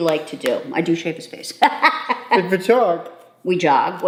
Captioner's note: laughing